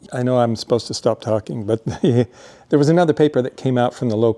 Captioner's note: chuckles